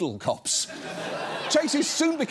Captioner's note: studio audience laughs